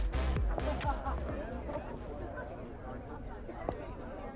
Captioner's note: party goers laughing